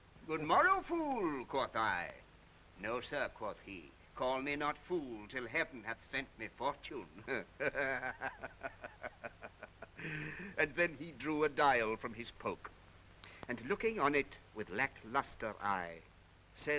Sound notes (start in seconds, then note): 7.2 laughing